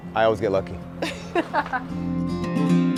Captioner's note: laughing; upbeat acoustic music